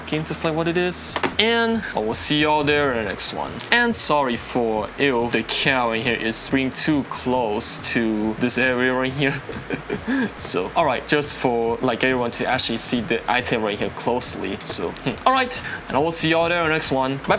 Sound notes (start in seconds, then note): 9.5 nervous Laugh